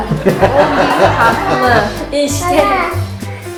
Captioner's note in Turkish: gülme sesleri